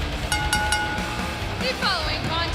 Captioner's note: bell ringing